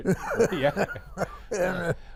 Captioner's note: laughing